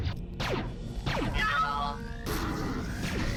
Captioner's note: authentic droid scream